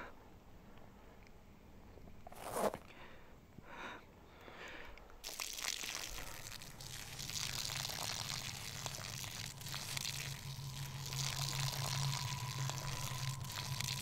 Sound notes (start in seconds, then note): 2.3 zipper crunching; 5.2 urine splattering; 11.1 hollow echoing